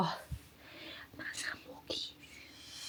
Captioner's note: whispering